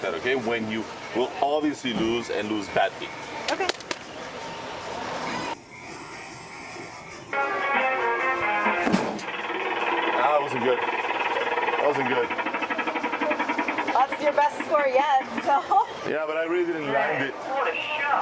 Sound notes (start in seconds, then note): 7.2 upbeat music; 7.4 punches bag; 9.2 machine counting